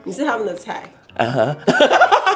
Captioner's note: laughs